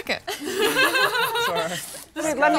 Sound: laughter

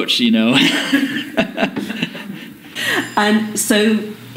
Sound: laughter

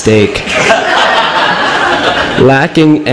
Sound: laughter

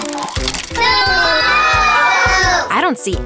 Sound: tile clicking; children yelling

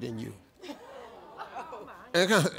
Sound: audience in shock

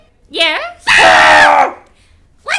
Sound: Buddy and Animal scream

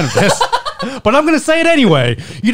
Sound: laughing

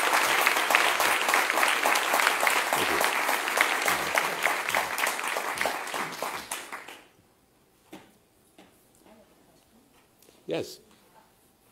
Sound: applause

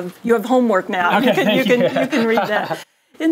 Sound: laugh

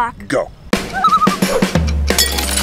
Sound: loon call

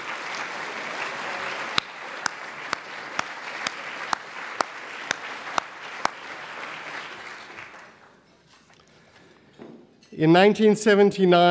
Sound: applause

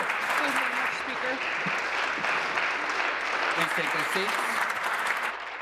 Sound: applause

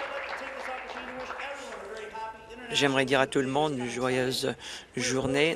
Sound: applause

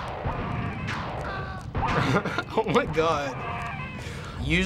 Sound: explosions and screaming; chuckling

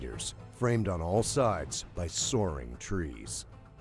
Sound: voiceover

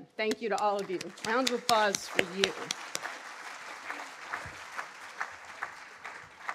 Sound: audience applauding

